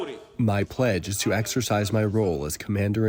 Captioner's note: through translator